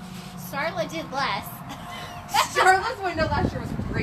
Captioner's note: laughs